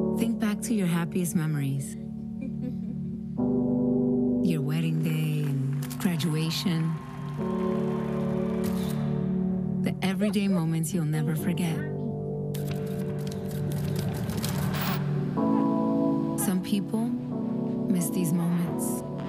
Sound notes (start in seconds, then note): 6.6 students cheering; 8.6 camera shutter clicks